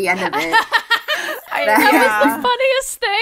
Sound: laughter

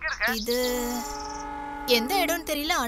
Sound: train horn blares

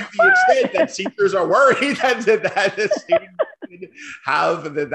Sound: laughter

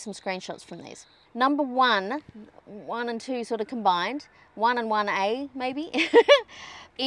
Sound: chuckles

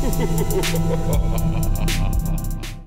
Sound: creepy laugh

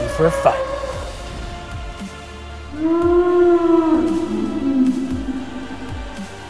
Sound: brachiosaurus Sounds

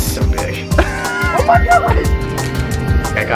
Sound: laughing

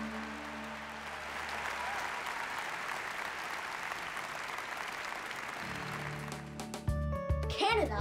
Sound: applause

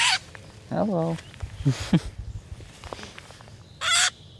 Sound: bird squawks; bird squawks again

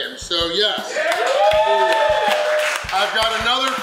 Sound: crowd clapping and cheering

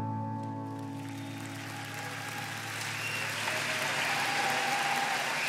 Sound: crowd cheering

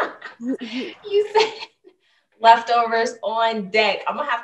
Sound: chuckling

